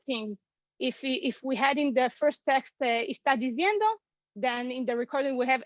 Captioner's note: Spanish